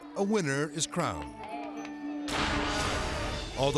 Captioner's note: people cheering; dramatic music